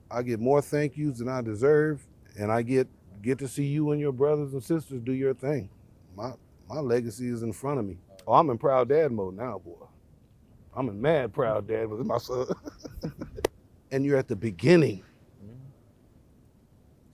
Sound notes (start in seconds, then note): 12.0 laughs